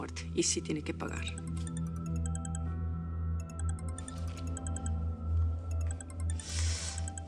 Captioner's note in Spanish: Suena el celular